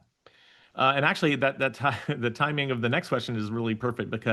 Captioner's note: laughs